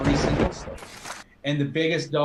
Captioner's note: drowned out by lightning